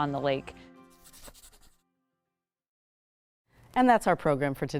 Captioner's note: pencil scratching